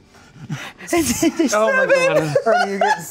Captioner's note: laughs